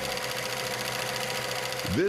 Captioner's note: film reel spinning